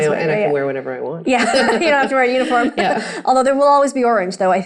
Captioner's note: laughing